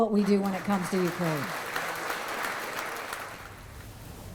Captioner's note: audience applause